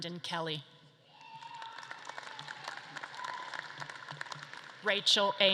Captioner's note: audience claps and cheers